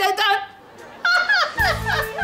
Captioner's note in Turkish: Gülme sesi